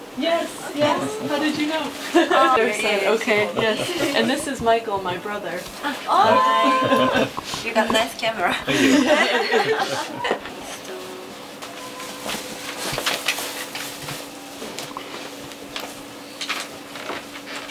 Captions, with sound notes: Yes! Yes! How did you know? Ok yes, and this is Michael my brother [laughter and surprise Oooo! noises] Hi! You have a nice camera! Thank you [all laughing]